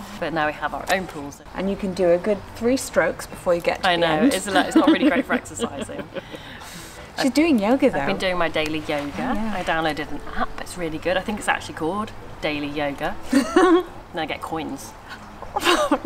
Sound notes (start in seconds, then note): 4.5 laughs; 13.2 laughs